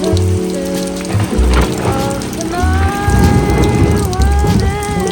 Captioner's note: thunder